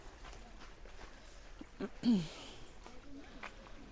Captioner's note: clears her throat